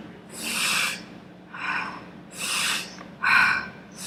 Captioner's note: breathing